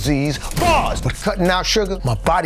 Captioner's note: door slams